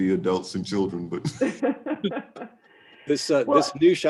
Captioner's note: laughing